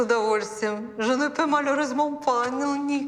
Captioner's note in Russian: Говорит по-французски